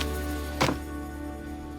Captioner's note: book thuds